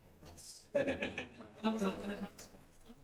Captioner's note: person laughing